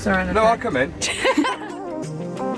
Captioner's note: laughing